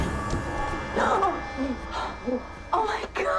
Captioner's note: gasps